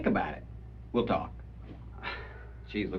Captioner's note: sighs